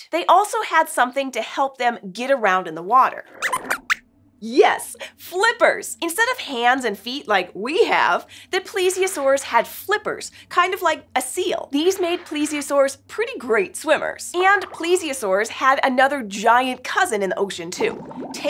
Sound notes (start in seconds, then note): 3.3 squeaks squeaks